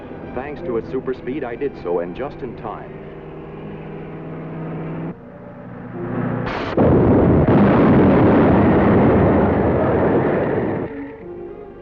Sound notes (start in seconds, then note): 3.9 car engine revving; 6.4 explosion